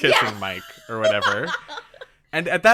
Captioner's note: laughs